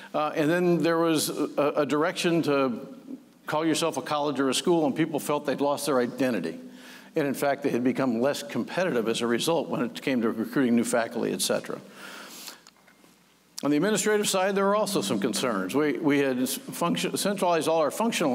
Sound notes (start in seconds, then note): none